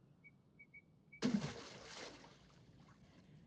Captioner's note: water splashes